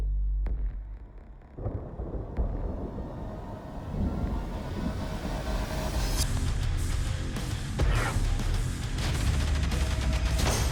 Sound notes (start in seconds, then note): 1.5 thunder; 6.2 rock music